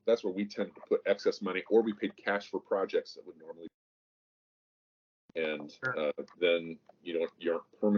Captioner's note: mic cuts